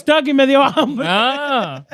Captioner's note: speaking In Foreign Language